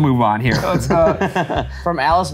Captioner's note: laughing